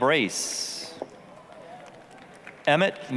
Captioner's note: applause